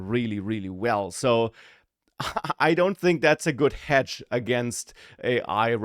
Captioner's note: laughs